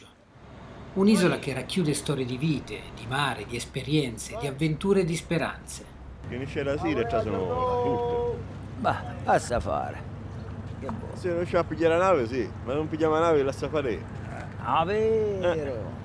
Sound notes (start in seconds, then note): 5.9 fishermen talking dialect